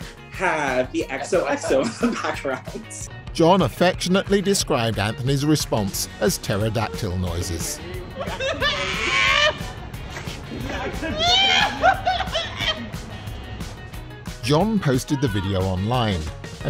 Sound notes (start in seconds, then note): 8.6 screaming